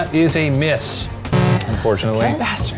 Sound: buzzer

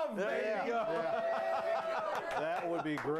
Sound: laughter

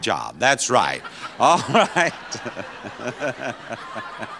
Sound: everyone laughing

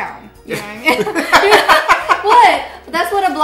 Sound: laughter

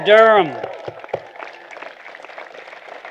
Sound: applause

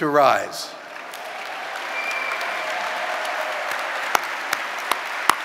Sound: audience applauding

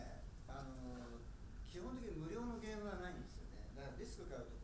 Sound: speaking in foreign language

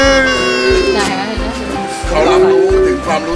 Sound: pretends to cry

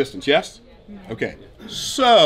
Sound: crowd murmurs

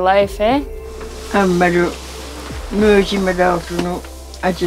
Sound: speaking in Inuktitut

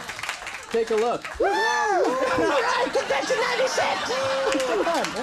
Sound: cheers; audience applauding

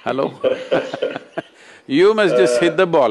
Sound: laughter

